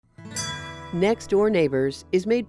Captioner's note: guitar thrumming; chime ringing